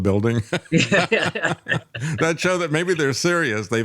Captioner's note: both Laughing